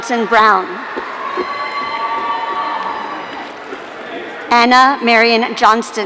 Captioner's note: audience cheering